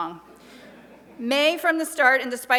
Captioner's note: light laughter